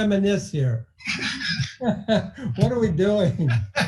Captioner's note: laughing